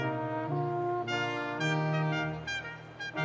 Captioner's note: none